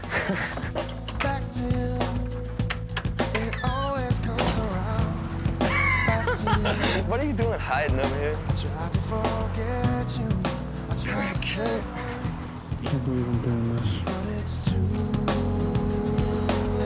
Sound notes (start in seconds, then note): 0.0 both laughing; 2.2 door squeaks; 5.6 both guys laughing